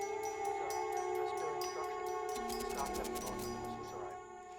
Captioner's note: muffled chatter